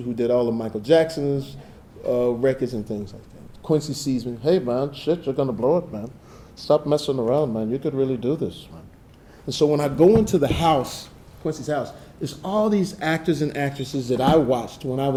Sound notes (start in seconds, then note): none